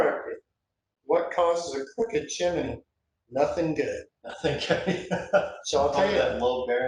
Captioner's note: laughs